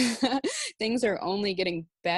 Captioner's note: laughs